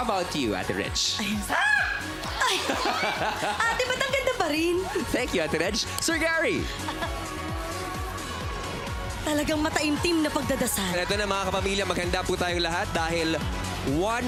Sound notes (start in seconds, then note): 1.3 screaming; 1.3 laughing